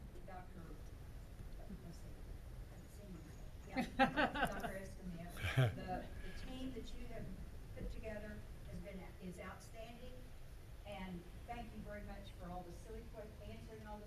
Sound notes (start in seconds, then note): 5.1 loud laughter